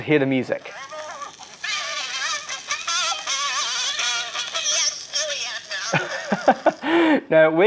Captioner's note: crackling, scratches, high-pitched music and voices; laughs